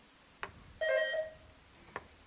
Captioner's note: bell dinging